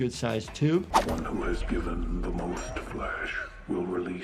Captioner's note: voiceover